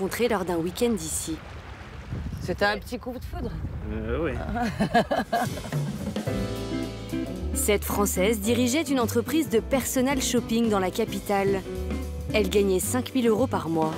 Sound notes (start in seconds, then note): 4.4 laughs